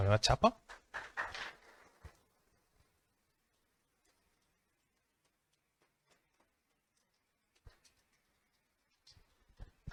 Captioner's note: audience applause